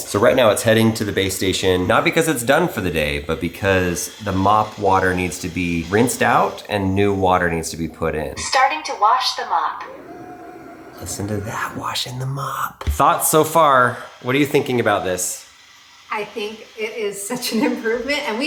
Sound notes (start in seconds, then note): 8.3 vacuum; 10.4 vacuum whirring